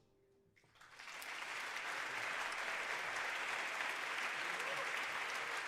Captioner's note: audience applauding